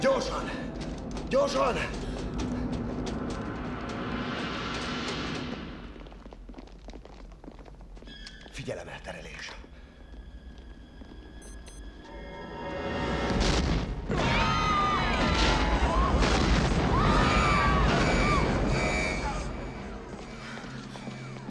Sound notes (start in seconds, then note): 11.4 beeping; 13.2 explosion; 17.0 yelling; 17.8 alarm blaring